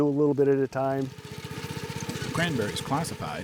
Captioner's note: engine rumbles